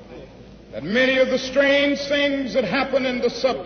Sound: none

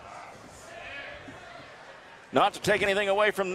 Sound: crowd cheering

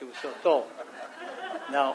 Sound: audience laughs

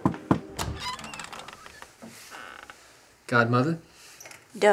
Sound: knocking

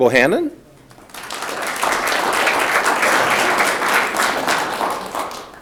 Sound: audience clapping

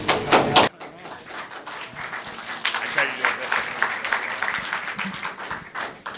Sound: applause

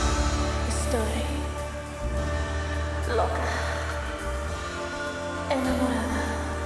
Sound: speaking in foreign language

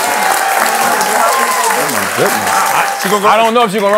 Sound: cheers and applause

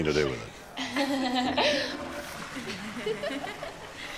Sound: laughing

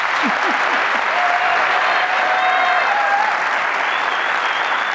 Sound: applause

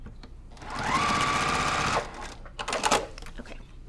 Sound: sewing machine resounding

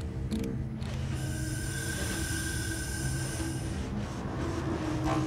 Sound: oxygen Machine hum

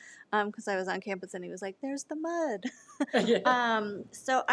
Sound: laughs

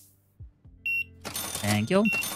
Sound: beeping

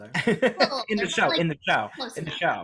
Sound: laughs

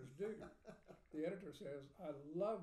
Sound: laughing

